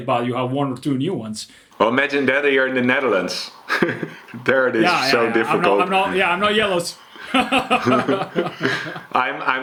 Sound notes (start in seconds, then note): 4.7 chuckles; 8.1 laughs